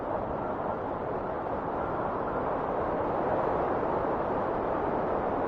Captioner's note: wind whistling continues